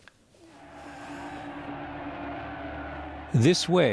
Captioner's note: crowd roaring